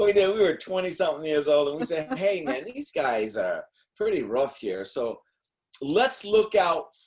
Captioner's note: laughing